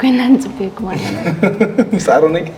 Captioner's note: laughs